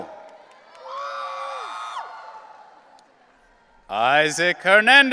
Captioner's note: audience cheering